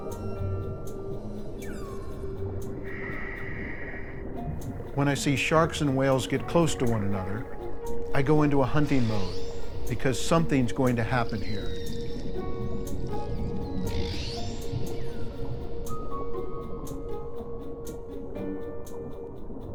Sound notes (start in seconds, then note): 0.3 light playful music; 13.2 high-pitched whale screeches; 16.3 light playful music